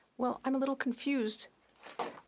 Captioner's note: speaking French